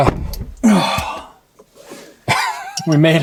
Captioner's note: grunting; laughing